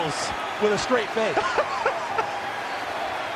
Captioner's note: KB laughing